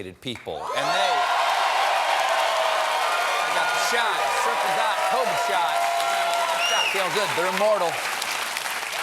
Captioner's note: cheers and applause